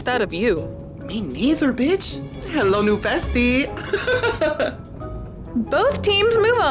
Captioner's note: giggles